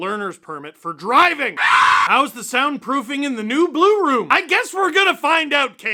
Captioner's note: screaming